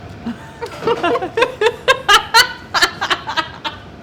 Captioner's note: laughs loudly